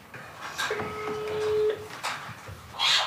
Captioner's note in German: Freizeichen